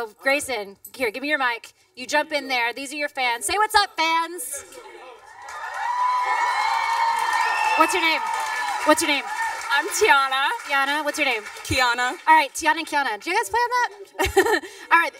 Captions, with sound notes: So, Grayson. Here, give me your mic. You jump in there. These are your fans. Say "What's up?" fans. (cheering, applause) What's your name? What's your name? I'm Tiana. Tiana? What's your name? -Kiana. -All right, Tiana and Kiana. Did you guys plan that? (chuckles)